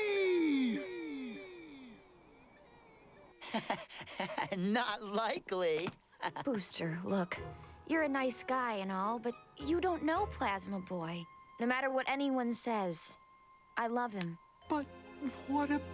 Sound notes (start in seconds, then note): 1.5 echoing; 3.1 laughs